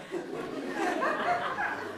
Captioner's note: laughter